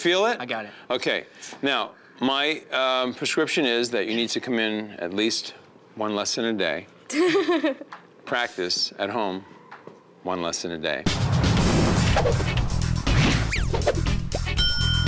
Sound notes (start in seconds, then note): 7.1 laughs; 11.1 energetic music